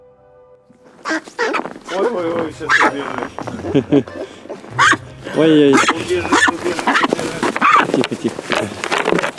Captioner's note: duck quaking